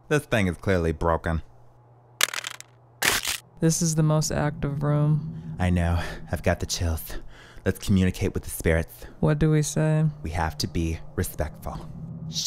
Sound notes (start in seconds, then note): 2.2 device clatters; 3.0 device crunches